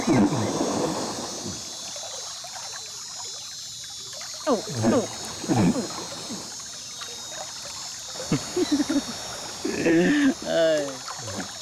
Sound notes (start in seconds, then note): 3.4 imitates caiman call